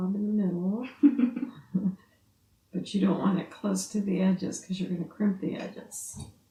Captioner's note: laughs